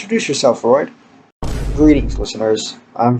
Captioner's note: boom